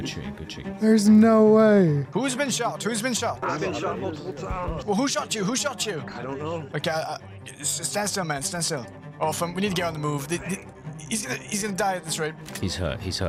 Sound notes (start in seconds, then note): 7.0 stutters